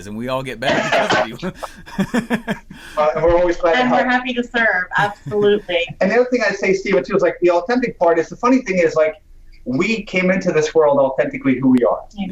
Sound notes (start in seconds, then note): 1.6 laughs